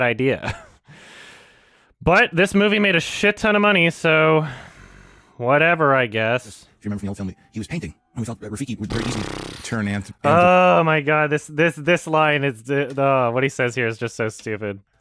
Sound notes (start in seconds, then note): 0.9 chuckles; 4.8 lightly sighs; 8.8 buzzes lips, like a horse, perhaps